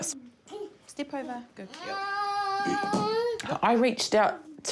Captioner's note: whines